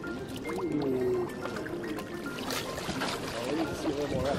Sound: background music; gentle water rippling/splashing sounds; background chatter

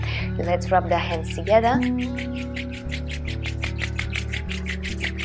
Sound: rubbing sound

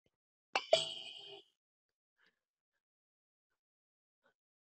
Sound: electronic pinging

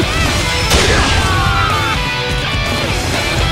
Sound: fatal scream

